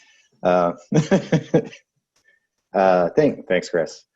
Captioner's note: laughs